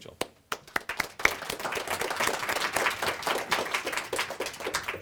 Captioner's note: audience applauds